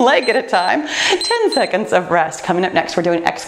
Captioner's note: timer beeps